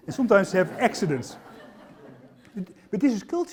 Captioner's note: laughter